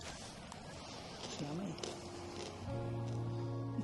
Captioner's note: laughs; gentle music